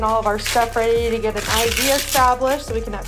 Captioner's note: pouch ripping